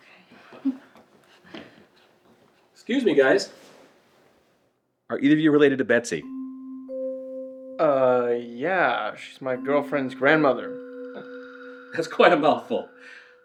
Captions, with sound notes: - Okay. (chuckles) (footsteps tapping) - Excuse me, guys. Are either of you related to Betsy? (pensive music) - Uh, yeah, she's my girlfriend's grandmother. - That's quite a mouthful.